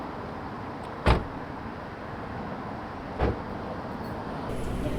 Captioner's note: car doors bang